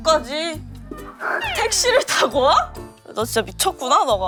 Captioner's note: exasperated